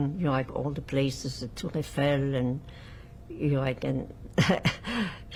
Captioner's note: laughing